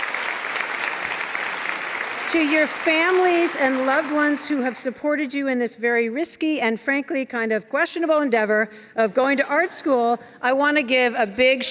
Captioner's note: applause and cheers